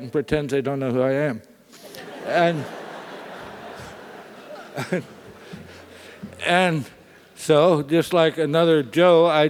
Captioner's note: laugh